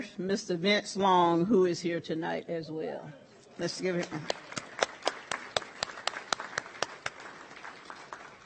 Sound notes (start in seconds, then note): 4.0 audience applauds